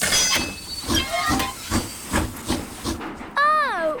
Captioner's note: train chugs